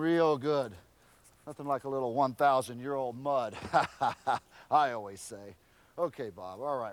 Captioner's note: laugh